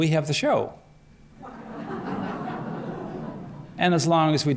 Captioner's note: laughter